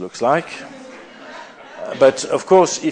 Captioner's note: laughter